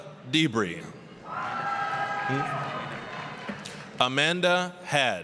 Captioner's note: applause, cheering